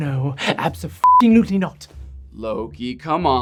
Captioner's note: beep